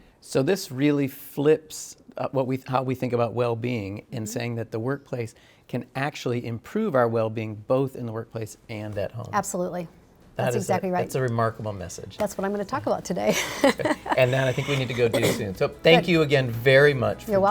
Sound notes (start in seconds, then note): 13.3 chuckling